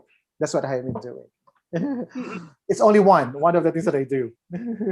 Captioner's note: laughs